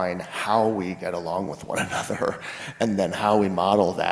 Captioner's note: laughs